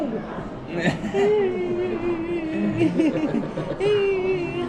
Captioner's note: Pororo cries